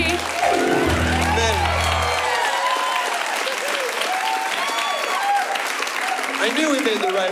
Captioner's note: applause